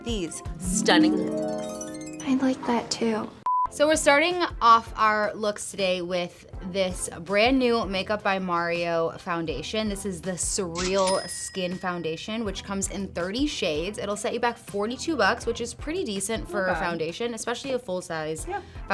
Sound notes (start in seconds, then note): 0.4 harp music; 3.4 beep